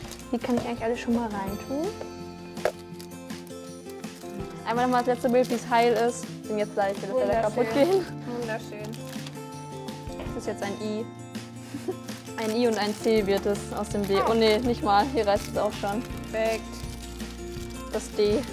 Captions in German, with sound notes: Die können wir alle schon mal reintun. Einmal das letzte Bild, wie es heil ist. Gleich wird es kaputtgehen. - Wunderschön. Das ist jetzt ein I. (Lachen) Ein I und ein C wird das aus dem D. Oh nee, nicht mal. Hier reißt es auch. Weg, das D.